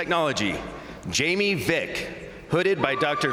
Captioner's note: crowd cheering